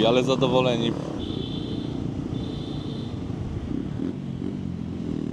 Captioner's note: motorcycle sound